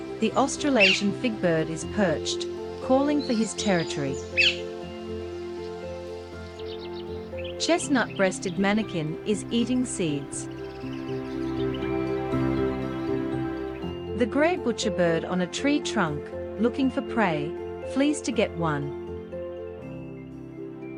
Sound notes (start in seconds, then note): 4.4 birds chirping